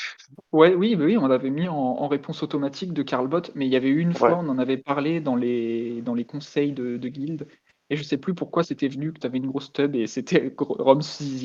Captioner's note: laugh